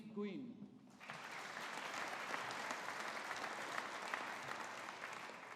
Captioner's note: audience applauding